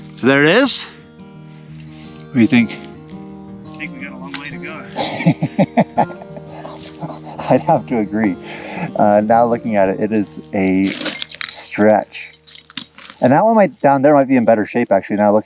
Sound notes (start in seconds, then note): 3.9 laughing